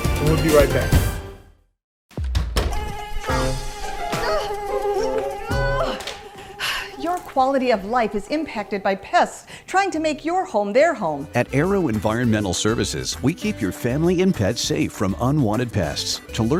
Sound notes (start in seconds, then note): 2.5 insects buzzing; 3.2 grunting and groaning